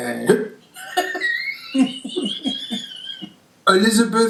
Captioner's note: laughing